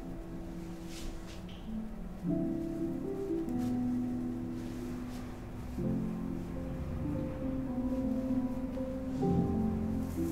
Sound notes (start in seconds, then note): none